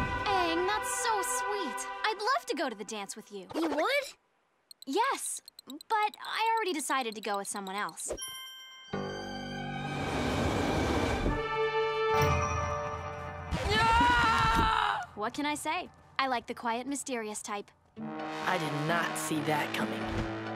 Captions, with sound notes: Aang, that's so sweet. I'd love to go to the dance with you. You would? Yes, but I already decided to go with someone else. [screaming] What can I say? I like the quiet mysterious type. I did not see that coming.